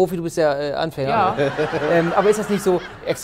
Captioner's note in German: Gelächter